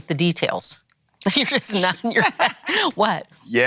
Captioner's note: laughs